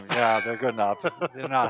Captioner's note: laughing